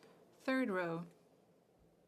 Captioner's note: speaking French